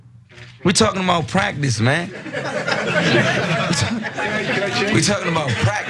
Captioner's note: laugh